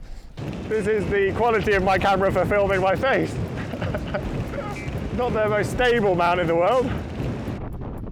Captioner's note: laughing